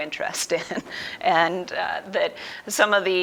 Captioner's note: laughs